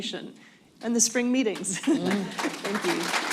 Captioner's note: applause